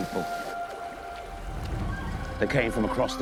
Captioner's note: footsteps splash